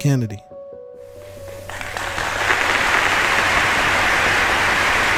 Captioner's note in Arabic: تصفيق الجمهور